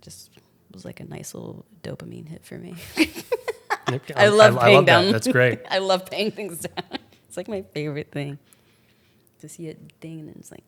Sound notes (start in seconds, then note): 2.8 laughs; 7.1 laughs